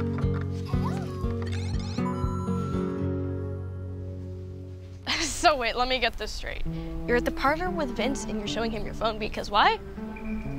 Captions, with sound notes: (coins dinging) - So wait, let me get this straight. You're at The Parlor with Vince and you're showing him your phone because why?